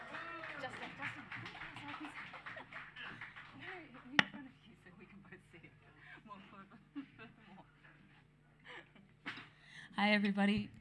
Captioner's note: applause